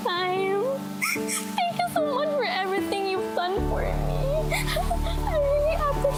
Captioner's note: cries